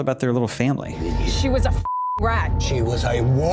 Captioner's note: beeping